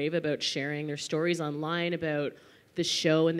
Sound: none

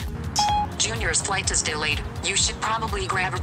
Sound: beep

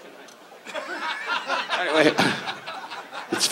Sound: audience laughs

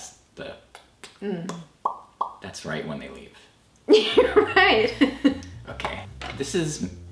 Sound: lip smacks

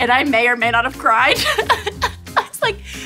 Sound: laughing

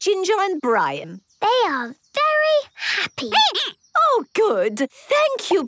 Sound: squeaking

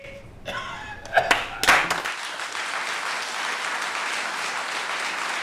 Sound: applause

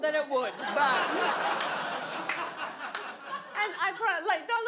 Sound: audience laughs

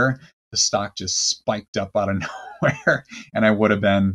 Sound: laughs

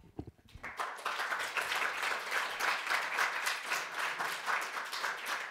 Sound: audience applauds

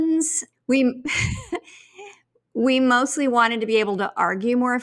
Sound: chuckles

